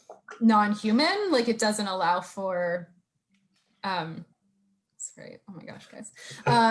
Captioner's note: laughter